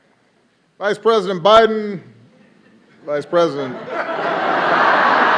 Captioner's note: applause